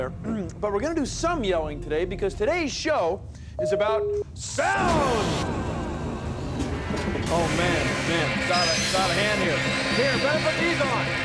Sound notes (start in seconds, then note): 4.1 echoing; 5.3 pounding, whirring, clanging